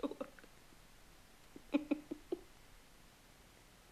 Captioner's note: crying